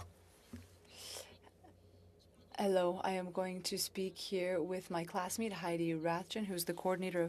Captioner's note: speaking French